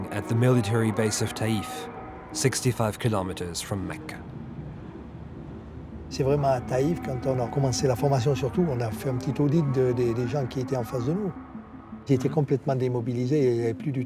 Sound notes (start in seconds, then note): 6.1 speaking in French